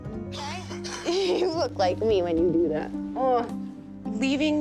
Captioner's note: laughs